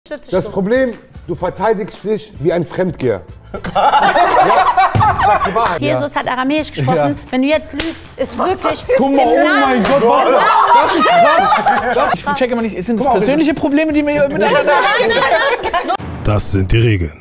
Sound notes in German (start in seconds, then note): 3.5 Gelächter; 9.3 Lachen, Durcheinanderrufen